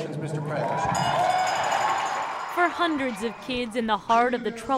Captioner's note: cheering